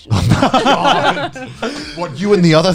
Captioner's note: laughing